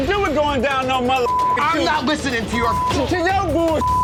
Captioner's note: beep